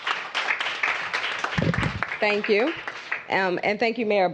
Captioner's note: applause